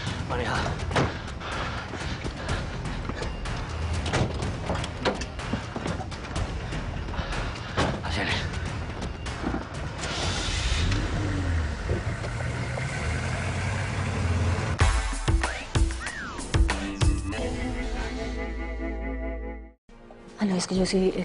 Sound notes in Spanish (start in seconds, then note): 10.0 Sonido del motor